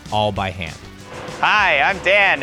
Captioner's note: machine whirring